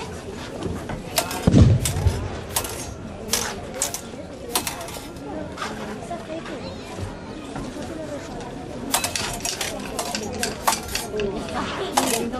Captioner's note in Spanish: suena un cañonazo, chocan las espadas